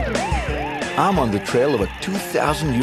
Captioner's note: police sirens